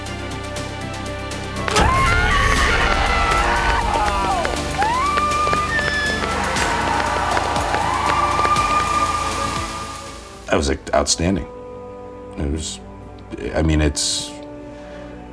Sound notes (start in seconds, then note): 0.2 dramatic music; 1.6 yelling; 5.9 crowd cheering